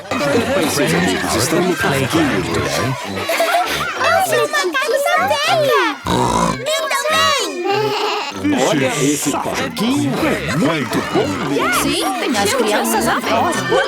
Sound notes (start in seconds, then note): 5.9 snorts; 7.6 bleating